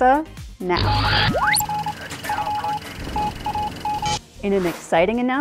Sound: sound Effects

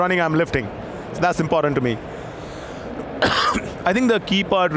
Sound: coughs

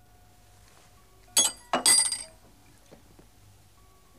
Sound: spoon rattles

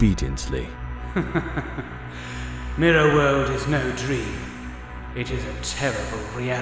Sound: chuckle

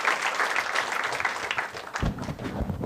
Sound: applause

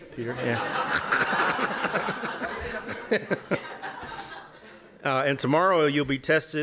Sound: laughter

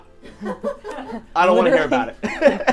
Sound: all laughing

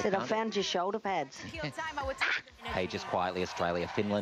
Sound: Myf laughs

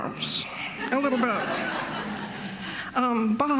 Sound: laughter

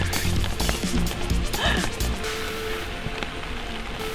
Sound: satisfied. Laughs

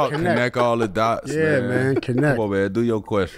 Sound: laughs

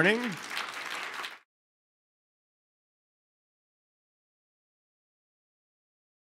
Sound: applause

